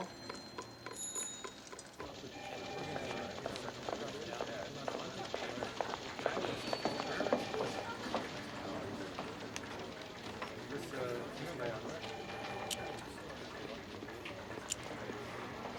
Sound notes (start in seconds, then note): 1.7 murmuring; 1.7 phones ringing